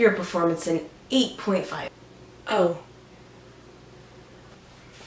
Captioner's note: awkward silence